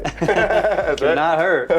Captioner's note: both laughs